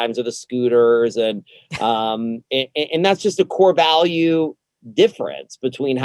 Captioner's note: laughs